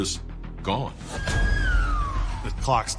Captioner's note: siren wailing